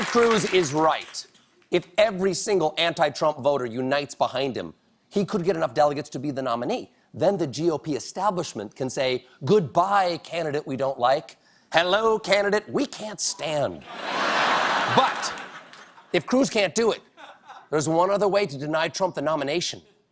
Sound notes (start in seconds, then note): 13.8 laughter